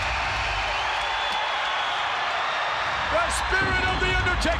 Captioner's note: crowd cheers